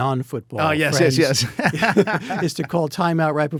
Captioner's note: both laughing